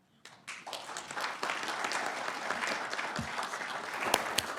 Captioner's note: audience applauding